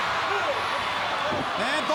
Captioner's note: crowd cheering